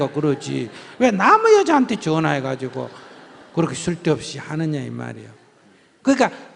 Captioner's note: audience Laughter